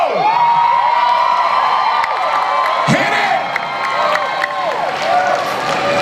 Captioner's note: audience cheers